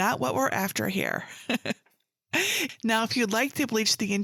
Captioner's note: chuckles